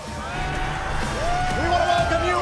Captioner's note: cheers & applause